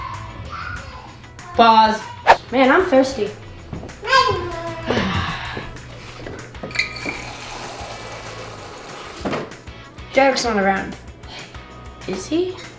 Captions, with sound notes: - Pause! (air whistling) - Man, I'm thirsty. (water pouring) Derek's not around, is he?